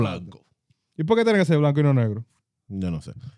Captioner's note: speaking In Foreign Language